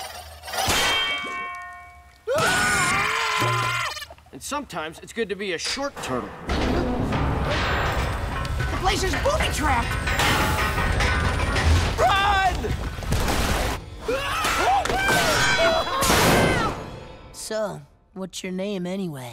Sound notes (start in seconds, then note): 0.1 clanking; 2.2 screaming; 5.6 clanking; 14.0 screaming, clanking